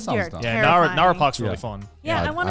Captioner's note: laughs